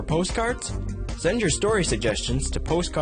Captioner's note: voiceover